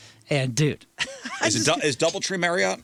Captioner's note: laughs